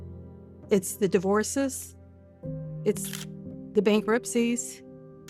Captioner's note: camera shutter clicks